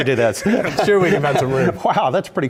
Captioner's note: laugh